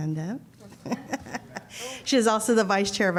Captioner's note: laughter